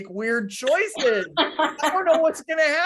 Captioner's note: laughing